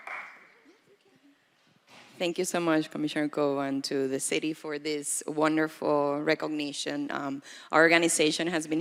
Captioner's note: applause